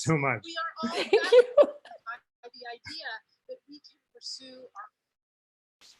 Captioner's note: laughter